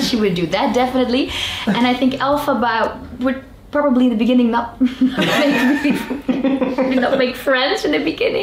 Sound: chuckles

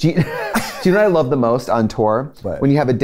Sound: laughs

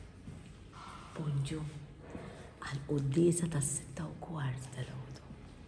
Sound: whispering

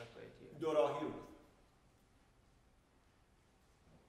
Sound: speaking in farsi

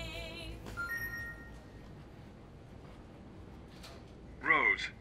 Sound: loud ringing

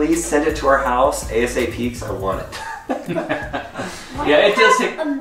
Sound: laughing

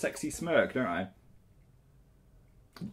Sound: silence

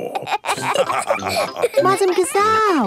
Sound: all laughing

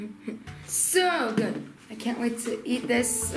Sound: laughs

